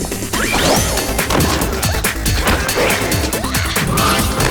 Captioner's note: fighting noises